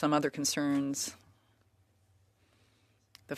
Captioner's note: speaking French